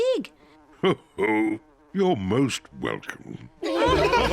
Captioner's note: chuckles; all laughing